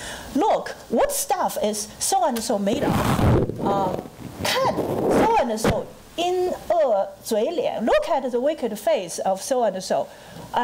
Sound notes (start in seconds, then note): 2.7 microphone distortion; 3.4 foreign language